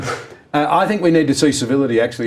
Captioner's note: laughing